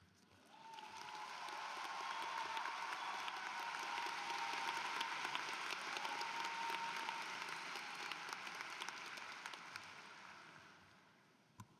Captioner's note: applause